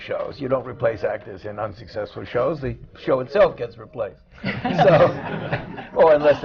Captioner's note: laughter